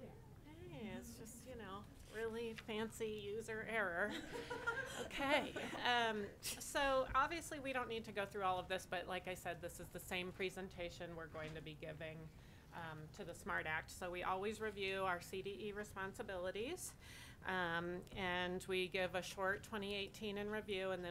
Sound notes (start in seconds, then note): 4.1 board members laugh